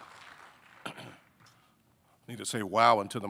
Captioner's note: audience applauding; clears throat